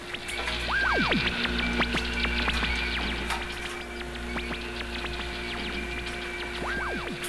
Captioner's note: whirring, Computer Sounds